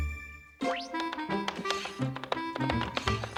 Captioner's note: typewriter clicking